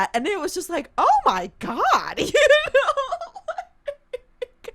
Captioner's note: laughs